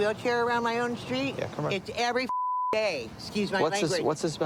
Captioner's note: beep